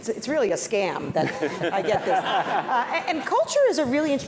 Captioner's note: laugh